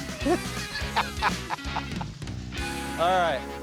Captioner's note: laughter